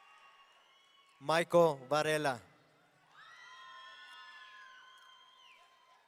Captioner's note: audience cheering